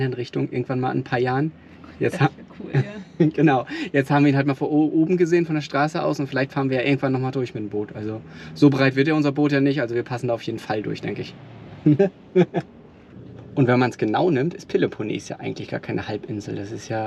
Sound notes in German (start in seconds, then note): 12.3 lachen